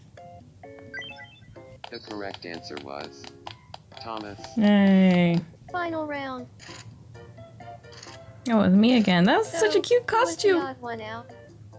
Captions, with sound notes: [Game audio] The correct answer was Thomas. Yay! [Game audio] Final round. Oh, it was me again. That was such Oh, it was me again. That was such a cute costume. [Game audio] Who was the odd one out?